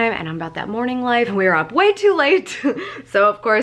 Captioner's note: laughs